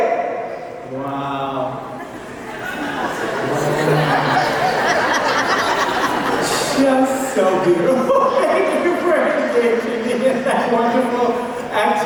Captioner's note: laughter